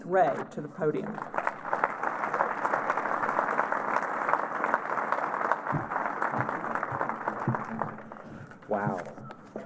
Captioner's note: applause